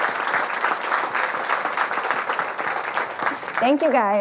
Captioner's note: audience applauding